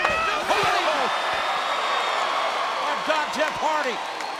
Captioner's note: crowd cheering